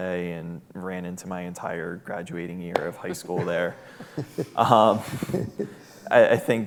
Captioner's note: laughing